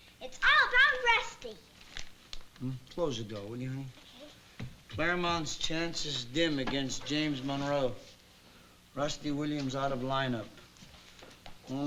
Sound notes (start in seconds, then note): 1.8 paper rustling